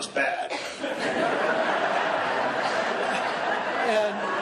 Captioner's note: laughing